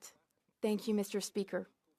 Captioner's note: speaking French